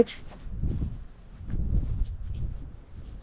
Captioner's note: wind